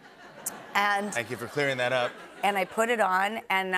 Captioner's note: laughter